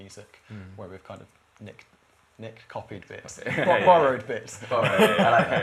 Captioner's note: laughter